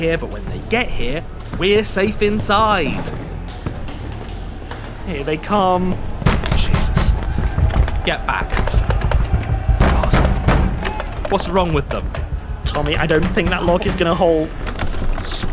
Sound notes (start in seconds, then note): 4.3 footsteps thudding; 4.3 people yelling; 6.4 banging on door; 9.4 banging on door